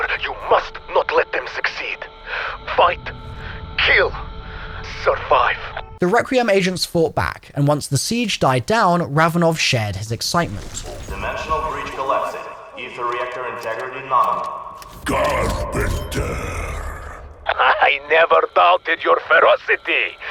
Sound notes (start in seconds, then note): 14.8 ominous Voice